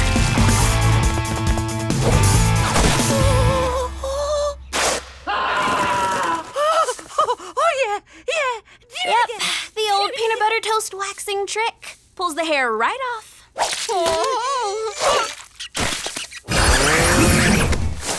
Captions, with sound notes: [groaning] [ripping, screaming] Oh. Oh. Oh, yeah. Yeah. Yep, the old peanut butter toast waxing trick, pulls the hair right off. [groaning]